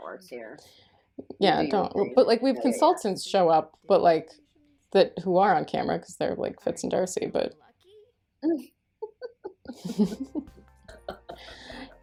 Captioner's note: laughter